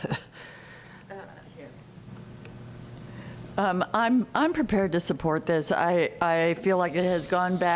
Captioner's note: laughter